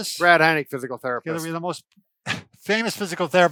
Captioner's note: laughs